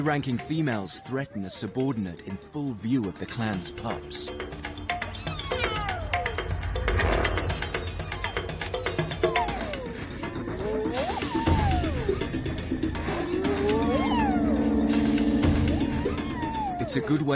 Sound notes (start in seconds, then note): 3.8 hyenas squeal; 3.8 suspenseful music